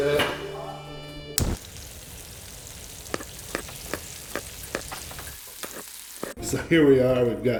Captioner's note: cooking sounds